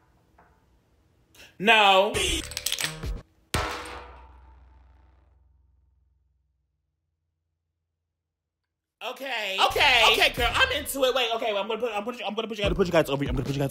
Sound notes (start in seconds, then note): 2.4 bean rattling; 3.5 bean twanging